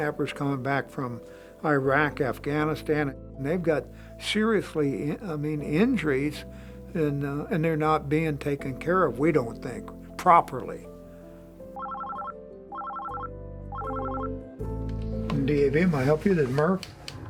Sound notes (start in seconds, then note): 11.7 phone rings